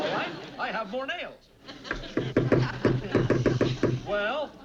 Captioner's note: hammering